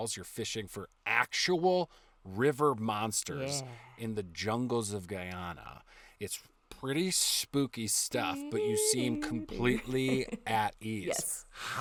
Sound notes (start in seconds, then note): 3.7 eerie whisper; 8.4 humming sinister tune